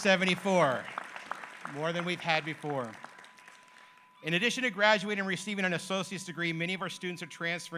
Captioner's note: applause